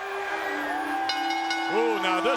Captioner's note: peaceful music; bell rings